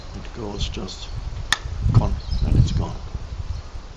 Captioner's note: pops